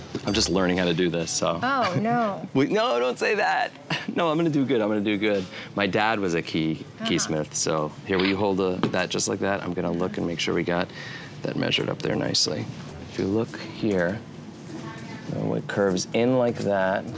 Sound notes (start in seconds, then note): 3.8 chuckles